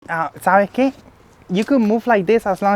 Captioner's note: speaking Spanish